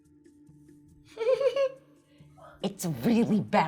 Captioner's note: laughing